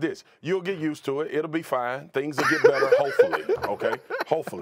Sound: laughter

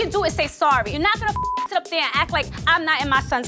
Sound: beep

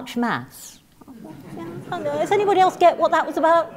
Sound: laugh

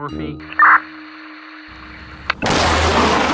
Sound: radio static; rocket blasting

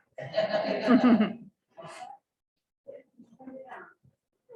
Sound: laughter

